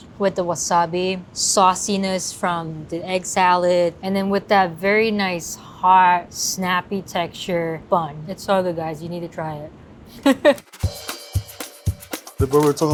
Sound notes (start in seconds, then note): 10.2 laughs; 10.6 up-tempo percussive jazzy music